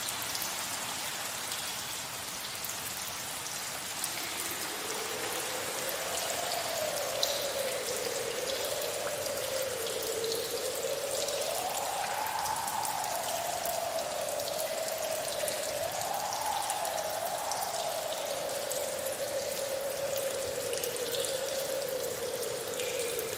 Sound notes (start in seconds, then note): 4.7 strong wind